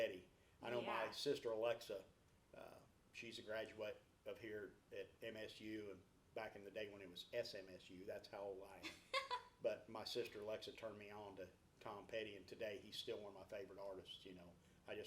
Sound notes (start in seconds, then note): 8.8 laughs